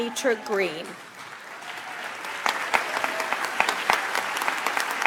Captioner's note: audience applauds